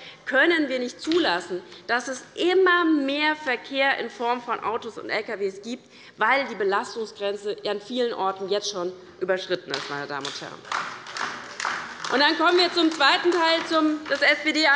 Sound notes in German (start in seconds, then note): 10.6 Beifall bei der LINKEN